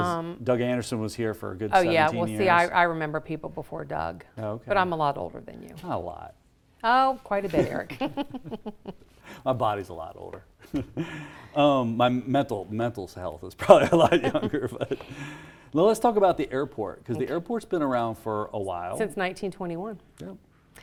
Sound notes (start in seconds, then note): 7.4 chuckles